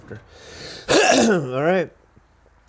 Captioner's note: man coughs